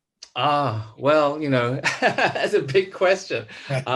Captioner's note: laughs